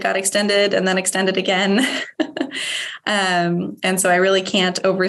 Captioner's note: chuckling